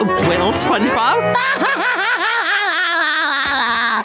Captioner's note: laughing